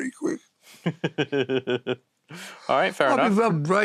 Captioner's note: laughs